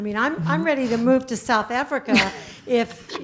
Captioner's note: laugh